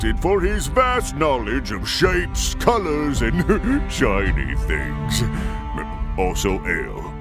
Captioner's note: chuckle